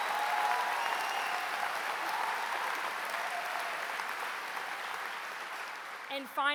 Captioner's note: applause